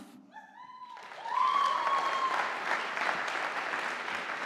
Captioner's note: audience applauding